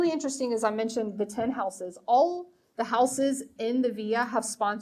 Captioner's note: speaking foreign language